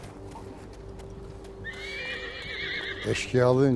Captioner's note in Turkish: At kişneme sesi